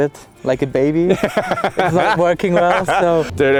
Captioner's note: laughing